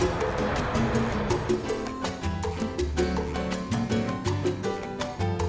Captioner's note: upbeat music; airplane engine roaring